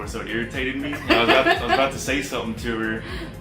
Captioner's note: laughing